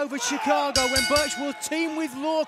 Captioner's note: bell ringing